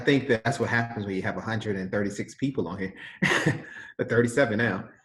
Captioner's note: laughs